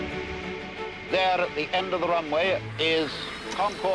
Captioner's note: radio voice